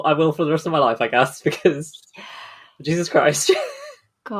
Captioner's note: laughing